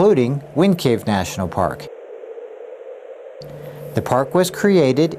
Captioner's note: wind rustling continues